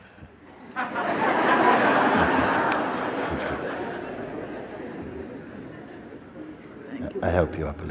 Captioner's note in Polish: śmiech